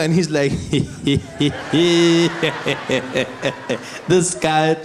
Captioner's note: Zuma laughing